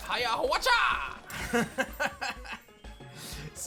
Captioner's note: laughs